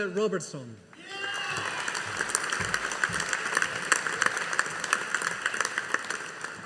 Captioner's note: audience applauding